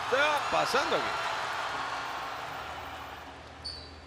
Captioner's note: applause